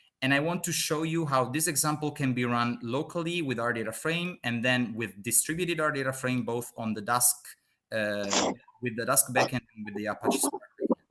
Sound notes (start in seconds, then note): 9.8 murmuring